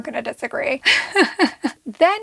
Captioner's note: chuckles